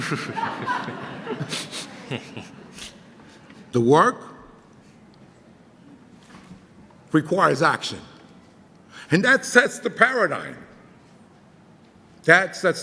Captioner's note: audience laughs